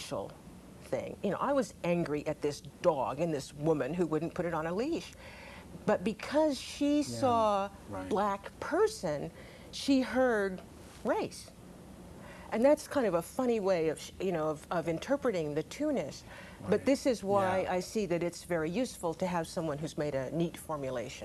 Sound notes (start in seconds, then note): 7.1 laughing